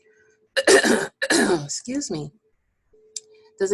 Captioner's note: clearing voice